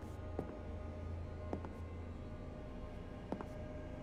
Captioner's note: footsteps clicking